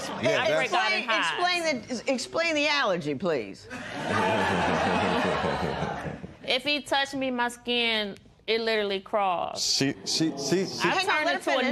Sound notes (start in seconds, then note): 3.7 laughter